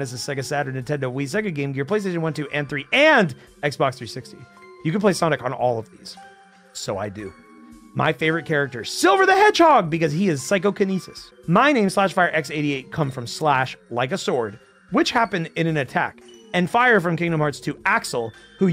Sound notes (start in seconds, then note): none